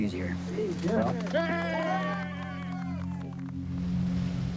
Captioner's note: protesters cheering